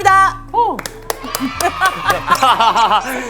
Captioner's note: applause